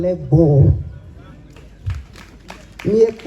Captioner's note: applause ..... 👏